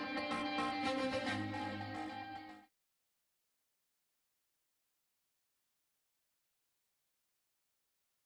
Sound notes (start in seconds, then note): 3.9 silence